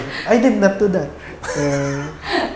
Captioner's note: laughs